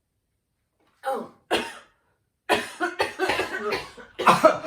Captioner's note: coughing; James joins coughing